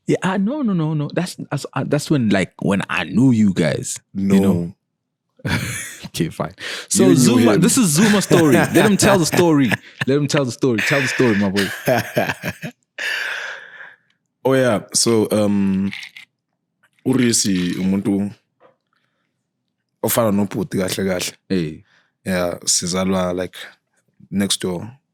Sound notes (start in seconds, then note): 10.7 laughing